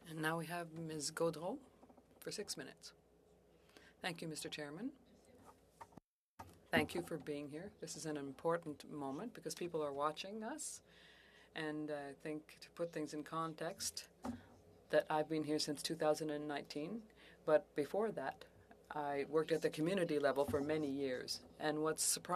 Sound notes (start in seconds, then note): 14.0 speaking French